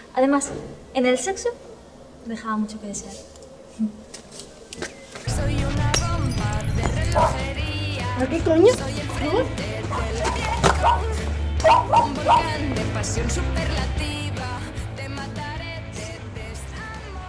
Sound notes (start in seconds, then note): 11.6 barks